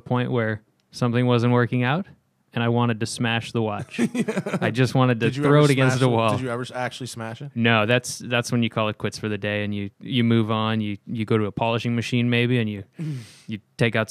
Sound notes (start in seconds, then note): 3.8 laughter